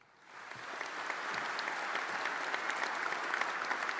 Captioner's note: applause